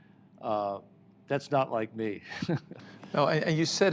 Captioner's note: laughs